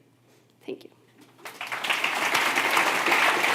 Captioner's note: applause